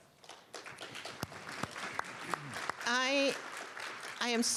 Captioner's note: applause